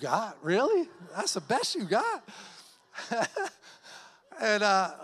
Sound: laughs

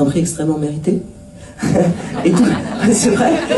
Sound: laughs

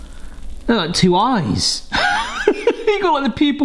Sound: laughs

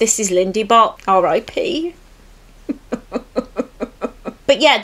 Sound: fake crying

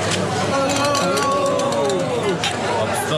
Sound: glasses clinking, cheering

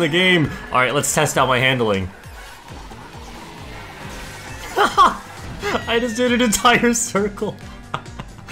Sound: laughs

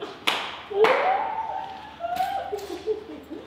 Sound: laughs and claps

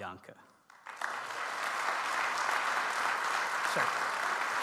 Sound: audience applauds

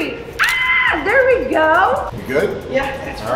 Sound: screams

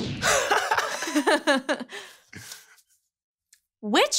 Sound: guy chuckling

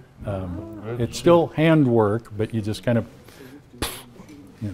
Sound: puffs

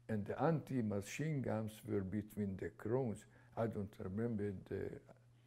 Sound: non-english

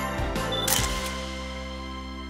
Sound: shutter clicking

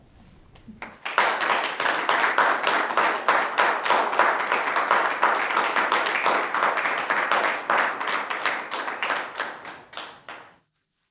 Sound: applause

